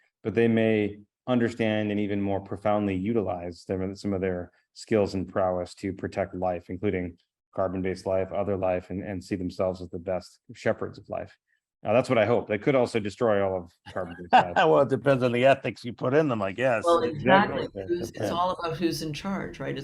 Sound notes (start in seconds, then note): 13.9 laughs